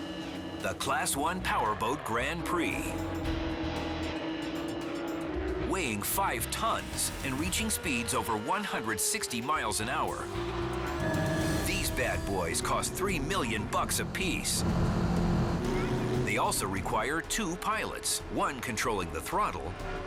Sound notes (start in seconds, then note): 3.3 engines roaring